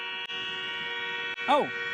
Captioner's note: train horn honking